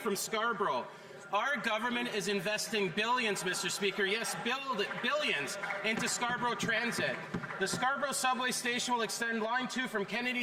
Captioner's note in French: voix de l'interprète